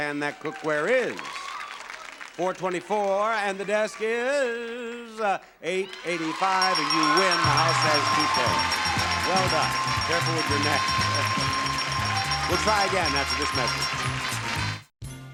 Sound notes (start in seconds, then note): 8.4 audience cheering; 8.4 upbeat music